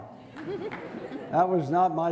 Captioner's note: crowd laughing